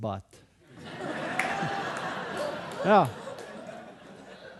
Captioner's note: audience laughing